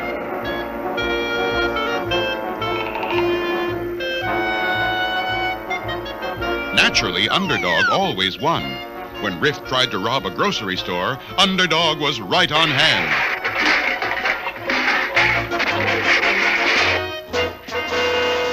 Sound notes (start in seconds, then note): 12.7 Cans tumble on Riff Raff